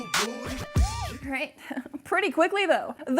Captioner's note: giggles